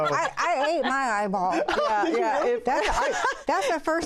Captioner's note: laughs